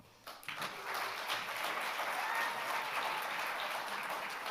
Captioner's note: audience applauding